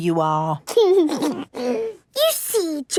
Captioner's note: giggles